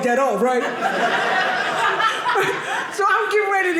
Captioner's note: audience laughing